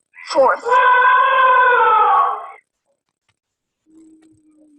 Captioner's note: elephant trumpeting